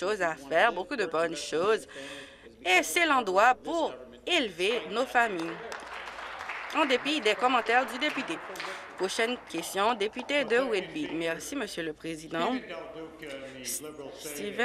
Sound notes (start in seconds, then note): 9.6 applause